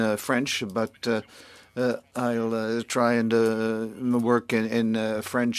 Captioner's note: speaking French